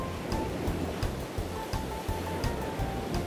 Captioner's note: happy music; noise of the sea